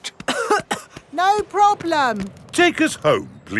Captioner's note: coughing